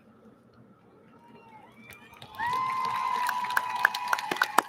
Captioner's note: audience lauds